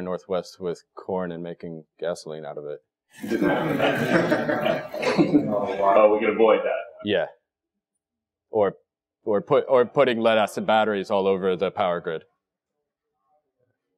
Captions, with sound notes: the entire Northwest with corn and making gasoline out of it. [LAUGH]. >> We could avoid that. >> Yeah. Or, or pu, or putting lead acid batteries all over the power grid.